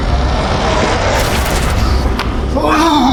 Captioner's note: light whooshing; glove slaps